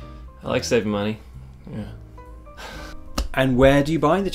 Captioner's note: laughs